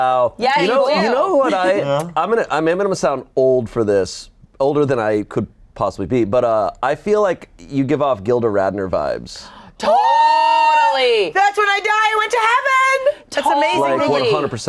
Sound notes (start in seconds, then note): 9.8 screaming